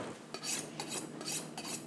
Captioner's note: knife sharpening